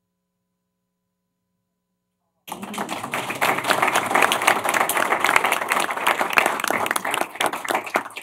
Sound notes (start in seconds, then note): 2.4 applause